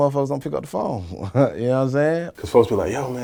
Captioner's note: chuckles